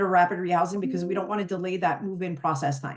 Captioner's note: notification dings